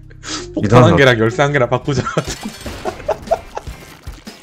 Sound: laughs

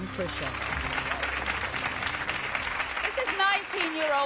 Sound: audience applause

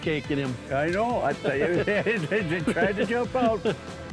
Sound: all laughing

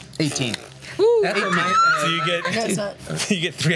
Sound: cheers

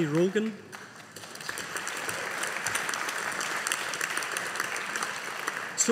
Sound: audience applauding

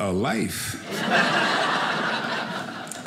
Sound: audience laughing

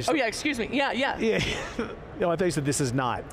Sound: chuckling

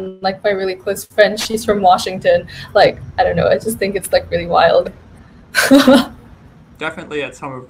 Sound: laughs

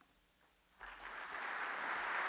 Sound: applause

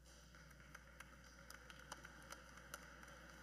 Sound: cheers and Applause

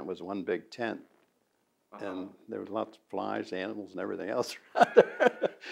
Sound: laughs

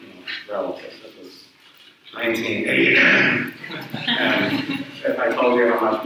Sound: fakes cough; audience chuckles

